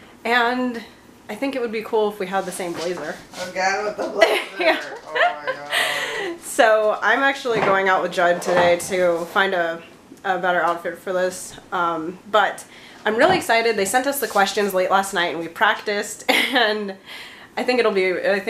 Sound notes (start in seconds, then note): 4.2 laughs